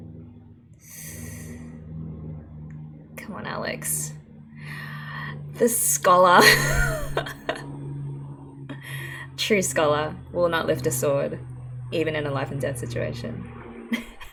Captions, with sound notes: [hissed breath] Come on Alex. The scholar! [laughs] True scholar. Will not lift a sword, even in a life and death situation.